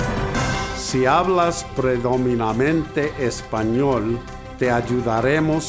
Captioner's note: speaks in foreign language